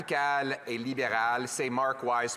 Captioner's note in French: voix de l'interprète